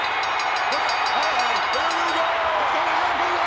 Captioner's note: bell ringing; crowd cheering